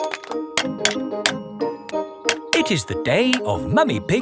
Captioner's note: clanking